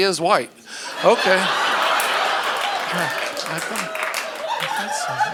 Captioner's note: audience laughing